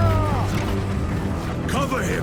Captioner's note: screaming